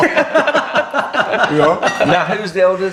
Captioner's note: all laughing